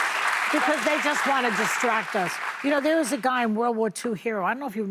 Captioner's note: applause